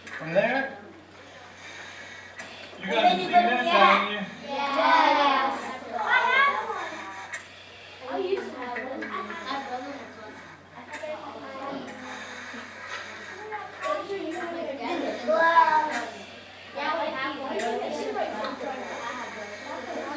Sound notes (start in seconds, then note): 5.3 children chattering